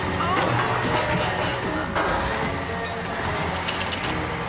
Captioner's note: metal Clanging